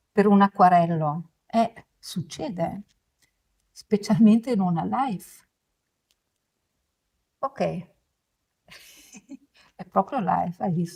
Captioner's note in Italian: risate